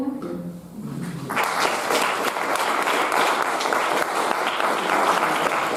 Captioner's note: audience applauding